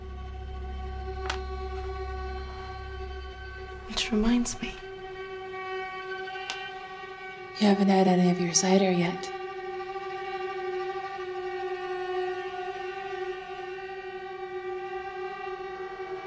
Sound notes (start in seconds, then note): 0.5 tiles dropping; 10.6 suspenseful music